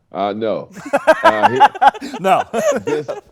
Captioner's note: laughs